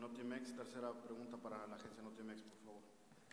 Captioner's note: in Spanish